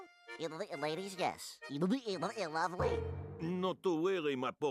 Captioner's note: stuttering